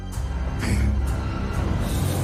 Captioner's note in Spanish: Gruñido